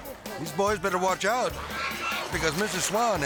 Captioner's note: boaters groaning; swan squawking